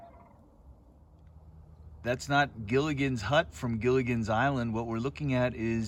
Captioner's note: various bird noises